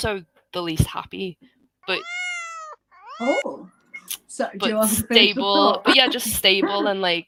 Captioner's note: miaow sound